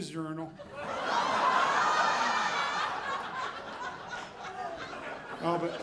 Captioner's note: audience laughing